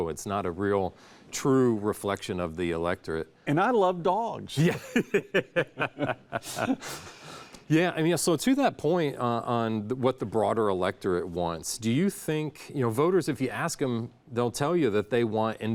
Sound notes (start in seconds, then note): 4.6 both laughing